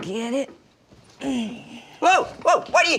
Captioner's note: Dory grunts